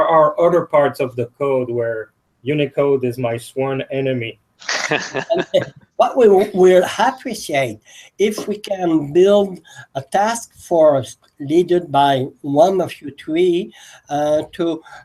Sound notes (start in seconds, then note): 4.6 laugh